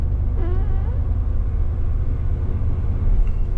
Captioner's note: indistinct squeaking sound